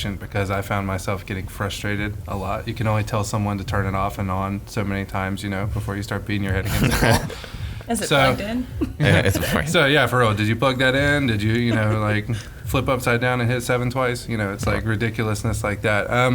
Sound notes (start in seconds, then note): 9.7 laughing